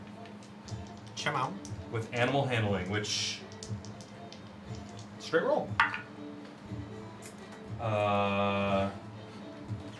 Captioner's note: none